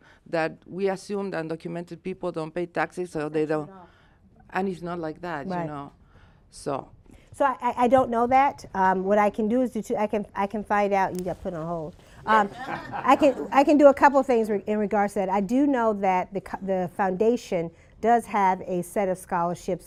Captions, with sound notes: that we assume undocumented people don't pay taxes, so they don't -- and it's not like that you know. >> Right. >> So. >> So I don't know that. What I can do is I can find out...you gotta put it on hold[laughter]. I can do a couple things in regards to that. I do know that the foundation does have a set of scholarships